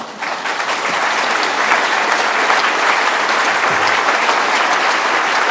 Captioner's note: applause